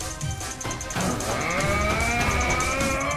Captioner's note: yelling